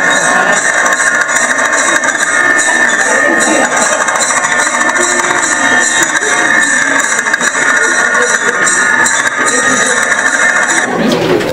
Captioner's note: loud laughter